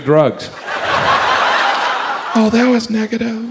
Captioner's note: audience laughs